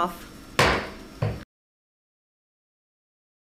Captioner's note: gavel bangs